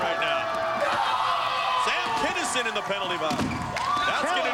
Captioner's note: screaming